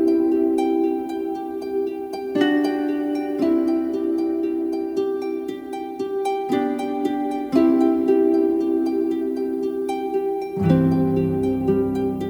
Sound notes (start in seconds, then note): none